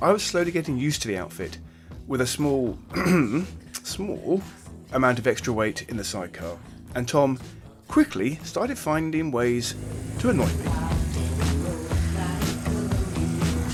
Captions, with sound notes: I was slowly getting used to the outfit with a small (clears throat) small amount of extra weight in the sidecar. And Tom quickly started finding ways to annoy me. (mellow music)